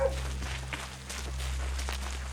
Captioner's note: dog barking; gravel crunching